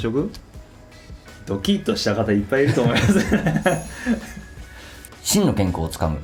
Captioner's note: laughs